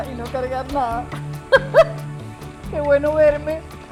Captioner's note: laugh